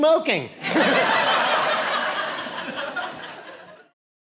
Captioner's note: audience laughing